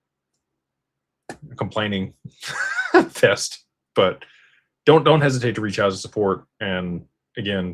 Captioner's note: laughter